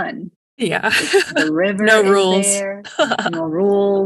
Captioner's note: laughs